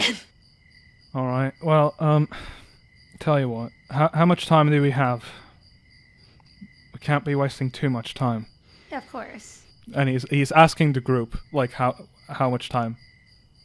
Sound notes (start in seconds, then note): 2.2 sighs